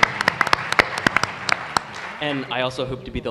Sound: applause

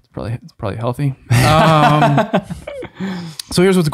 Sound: laughs

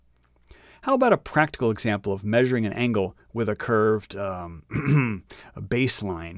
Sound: ahem

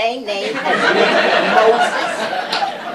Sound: laughter

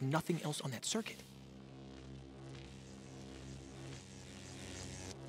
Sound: electricity buzzes

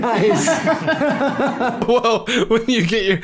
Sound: uncomfortable laughter; mimicking laughter

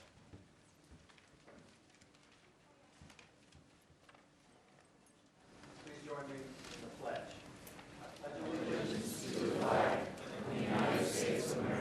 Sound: moment of silence

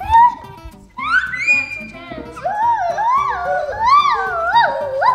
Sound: giggling loudly; screeching

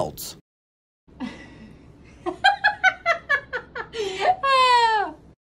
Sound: laughter

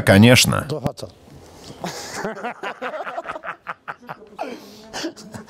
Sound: laughing

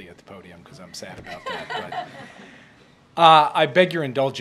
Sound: laughter

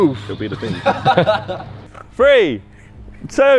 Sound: men laughing

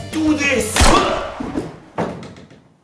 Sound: nerf gun fires!

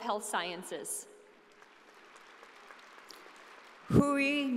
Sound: audience applauding

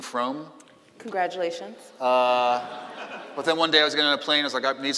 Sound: laughing

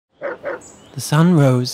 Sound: dog barking

